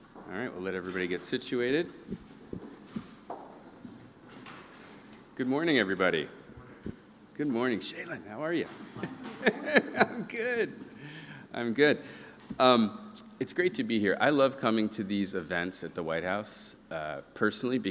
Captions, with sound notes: All right, we'll let everybody get situated. Good morning, everybody. Good morning, Shailen, how are you? [laughs] I'm good, I'm good. It's great to be here. I love coming to these events at the White House personally